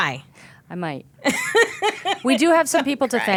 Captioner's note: laughing